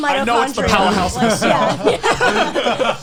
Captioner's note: all laughing